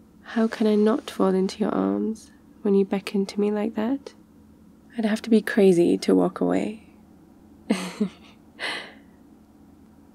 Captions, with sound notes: how can I not fall into your arms when you beckon to me like that I'd have to be crazy to walk away *laughs*